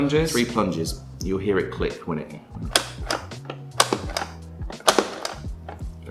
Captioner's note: plunger clicks